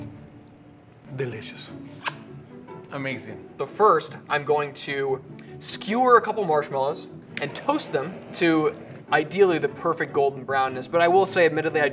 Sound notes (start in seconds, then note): 1.9 chef kissing